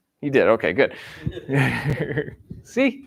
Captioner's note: laughter